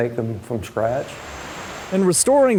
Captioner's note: birds chirping